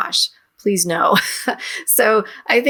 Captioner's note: chuckles